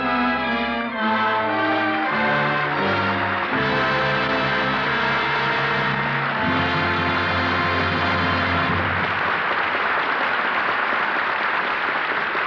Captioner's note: applause